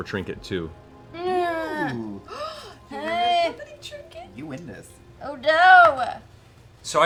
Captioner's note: worried noises